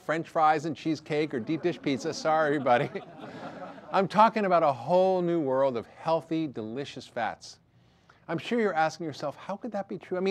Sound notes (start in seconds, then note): 1.0 audience laughter